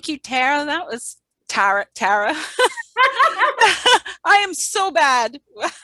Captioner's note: laughing